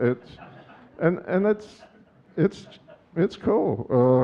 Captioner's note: audience chuckling